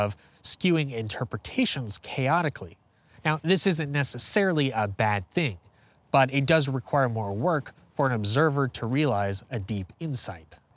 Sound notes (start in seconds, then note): none